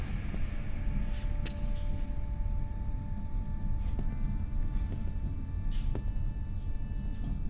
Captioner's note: crickets chirping; light music